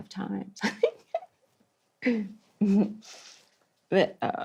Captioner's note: laughs